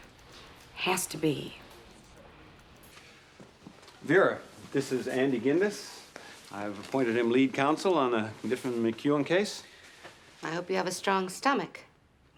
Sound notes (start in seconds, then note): none